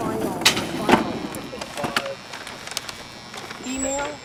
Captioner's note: electric buzzing